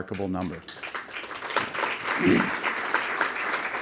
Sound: applause

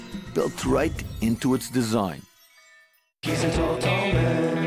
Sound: bells tinkling

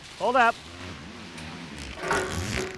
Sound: hose clanking; tube scraping

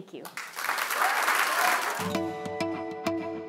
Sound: applause

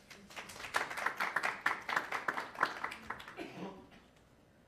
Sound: attendees clapping

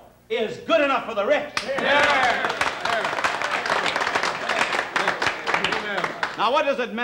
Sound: men cheering and applauding

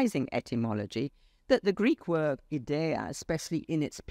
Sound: speaks foreign language

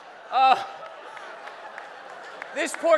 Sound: laughing

